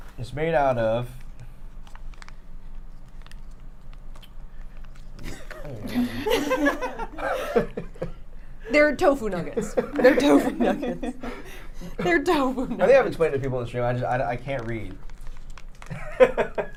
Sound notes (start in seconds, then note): 5.2 all laughing; 15.9 laughs